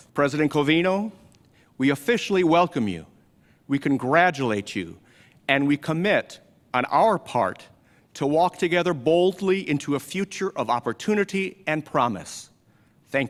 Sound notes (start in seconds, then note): none